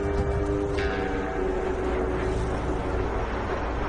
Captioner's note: airplane swooshing